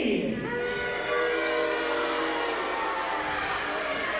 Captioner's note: crowd boos